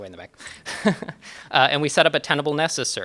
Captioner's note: chuckles